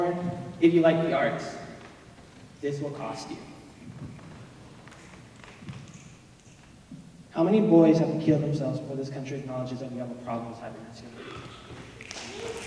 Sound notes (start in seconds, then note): 4.8 snaps; 12.0 applause